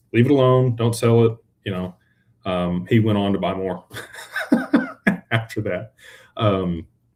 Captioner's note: laughter